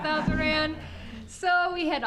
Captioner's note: audience laughing